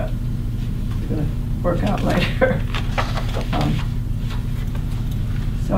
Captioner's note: laughs